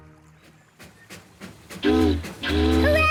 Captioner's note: chugging; boat horn honking